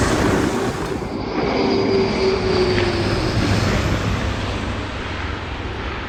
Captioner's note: plane engine roaring